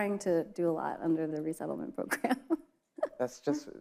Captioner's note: laughs